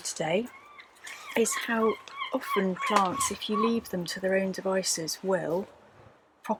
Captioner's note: seagull squawks